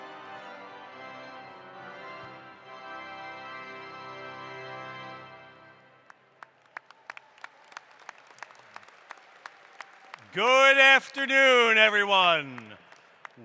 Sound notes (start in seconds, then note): 6.0 applause